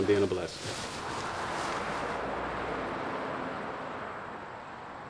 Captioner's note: vehicles whooshing